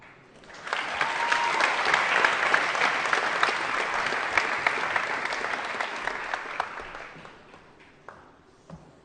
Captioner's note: applause